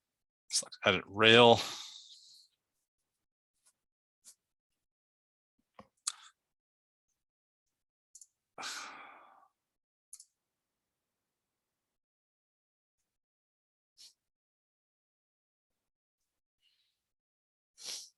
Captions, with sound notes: Select Edit Rail. (mouse clicking)